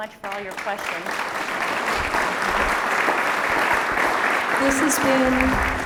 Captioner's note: applause